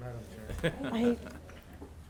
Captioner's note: participant laughs